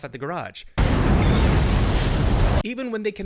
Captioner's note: explosion